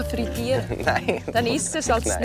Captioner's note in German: lacht